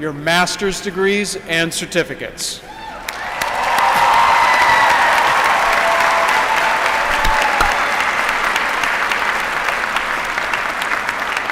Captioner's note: applause